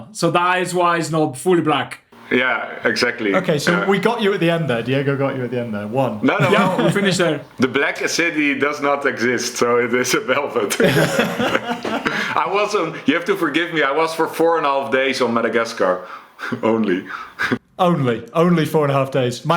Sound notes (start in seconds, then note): 10.7 laughs; 16.4 chuckles